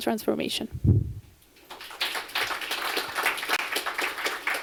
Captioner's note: applause